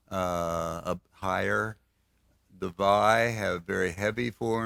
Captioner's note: none